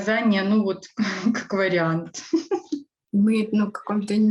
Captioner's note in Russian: смеется